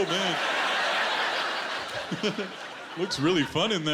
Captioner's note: laughter